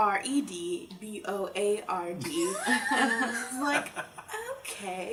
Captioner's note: laughter